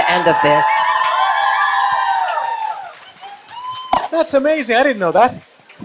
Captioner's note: cheering and applause